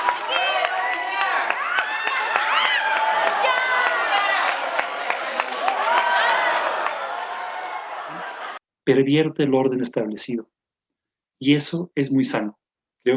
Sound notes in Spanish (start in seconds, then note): 0.0 vitores y aplausos